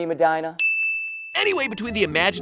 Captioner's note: ding